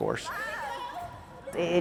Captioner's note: people talking and swimming in the pool